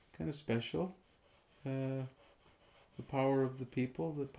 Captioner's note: pencil scratching